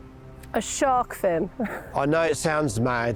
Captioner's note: laughs